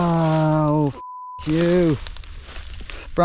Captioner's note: beeps